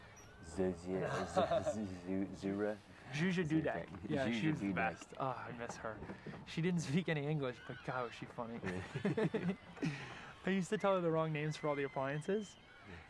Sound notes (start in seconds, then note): 1.0 Risas; 8.4 ambos rías